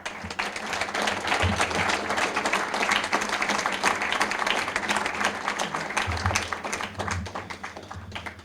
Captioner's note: applause